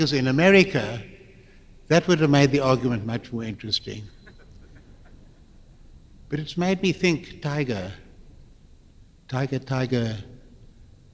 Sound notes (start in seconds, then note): 4.2 laughter